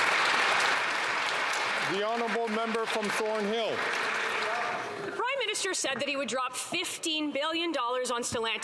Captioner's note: some Applause